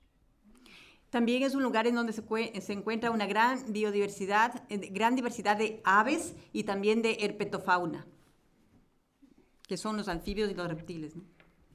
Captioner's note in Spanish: Español